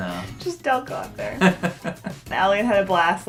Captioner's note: laughing